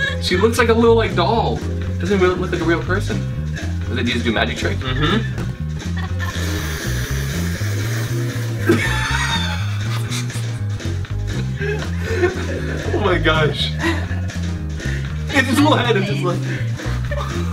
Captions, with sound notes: She looks like a little, like, doll, cause they do it with like a real person. - I think he's doing a magic trick. (laughing) - Oh my gosh. This one is just my favorite.